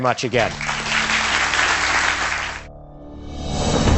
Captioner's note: audience applauds; suspense music